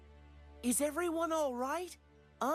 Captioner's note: none